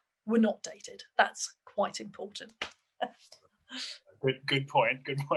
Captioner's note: laughs